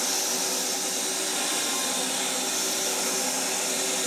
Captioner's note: saw whirring